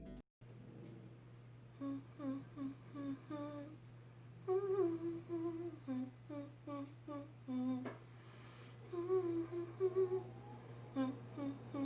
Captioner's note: humming